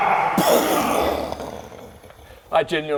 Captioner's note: boooom